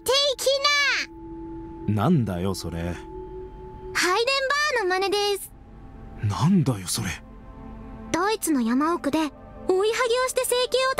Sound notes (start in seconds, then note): none